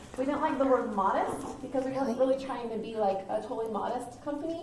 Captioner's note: none